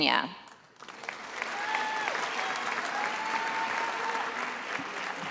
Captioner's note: attendees applauding